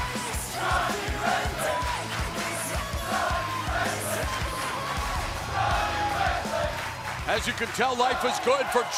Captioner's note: crowd cheering